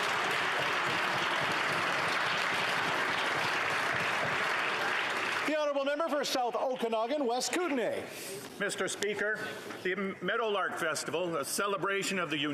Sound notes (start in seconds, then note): 2.0 some Applause